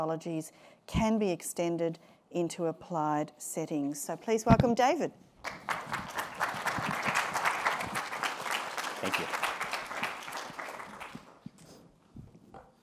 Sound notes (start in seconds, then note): 5.4 applause